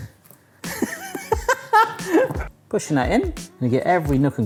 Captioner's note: laughing